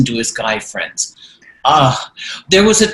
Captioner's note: groans